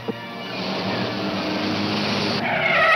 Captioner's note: tires screeching